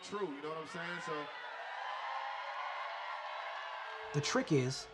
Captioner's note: crowd cheering